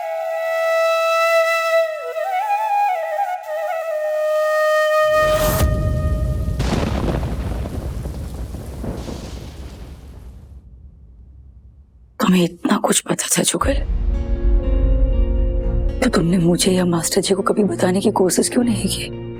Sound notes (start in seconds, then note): 5.1 thunder rumbling